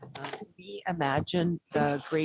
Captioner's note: none